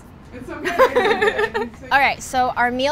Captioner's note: laughing